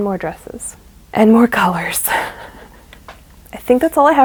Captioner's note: laughs